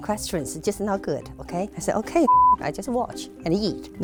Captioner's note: beep